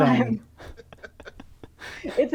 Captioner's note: laughter